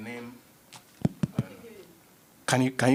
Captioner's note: taps mic